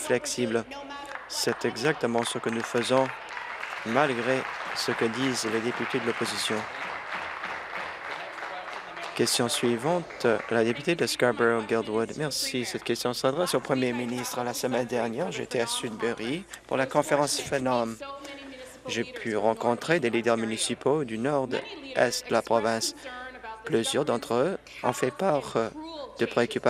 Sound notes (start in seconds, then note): 7.7 applause